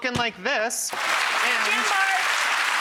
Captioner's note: applause